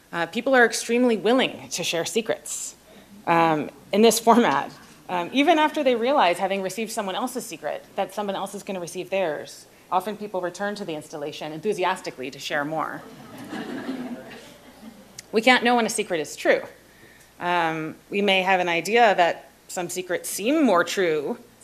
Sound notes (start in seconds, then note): 13.0 laughter